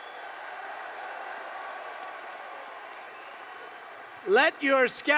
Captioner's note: applause